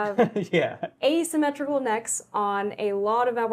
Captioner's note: laughs